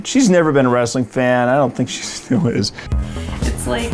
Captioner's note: laughing